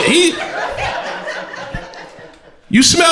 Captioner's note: crowd laughter